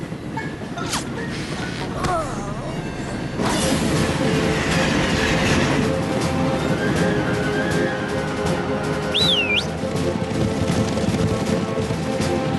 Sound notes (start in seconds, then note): 1.3 groans; 9.0 whistles